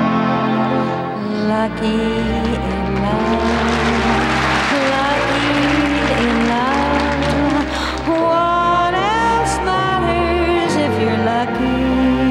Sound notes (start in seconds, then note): 2.2 audience applause